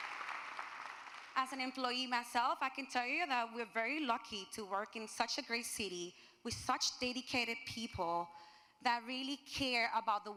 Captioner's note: applusae